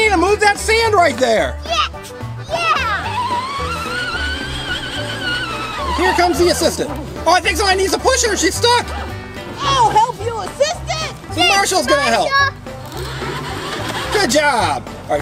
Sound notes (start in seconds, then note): 2.5 toy excavator moving